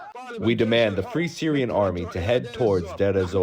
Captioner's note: through translator